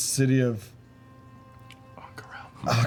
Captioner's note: whispers